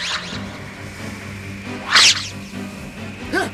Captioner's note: SFX: magic sounds